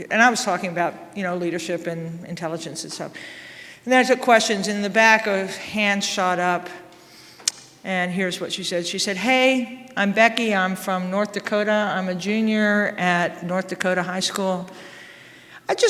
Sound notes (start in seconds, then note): none